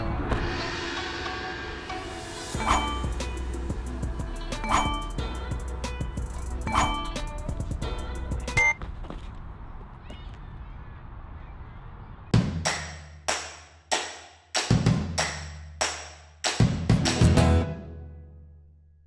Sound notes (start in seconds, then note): 0.1 gong; 2.5 swoosh, Ding; 4.6 swoosh, Ding; 6.6 swoosh, Ding; 8.5 thud, Buzzer